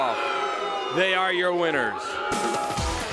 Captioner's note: crowd chatter